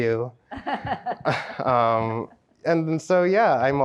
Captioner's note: laughs